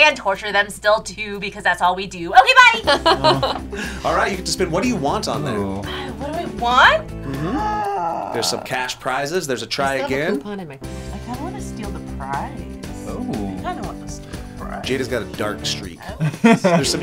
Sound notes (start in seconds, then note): 2.8 laughs; 7.2 gasps; 16.2 chuckles